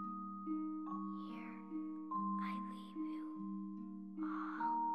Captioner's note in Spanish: susurrando